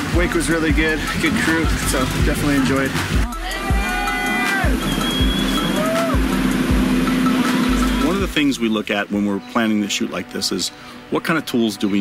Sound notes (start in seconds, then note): 3.4 cheering